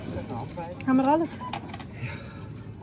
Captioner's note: in Swiss German